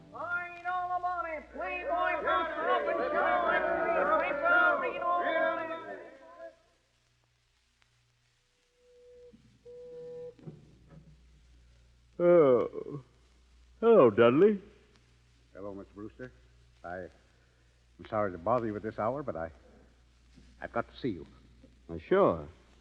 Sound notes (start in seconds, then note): 1.4 crowd chattering; 7.6 phone ringing